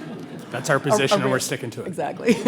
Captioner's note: audience chuckles